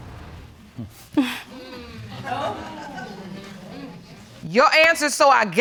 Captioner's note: audience exclaiming; scoffs